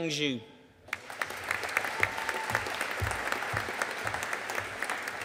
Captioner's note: audience applauding